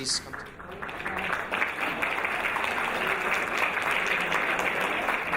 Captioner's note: audience applauding